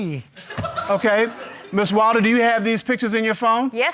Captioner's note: audience laughing